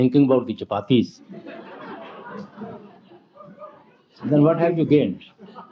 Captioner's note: laughter